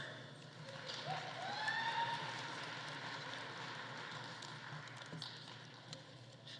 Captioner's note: audience applauding; audience cheering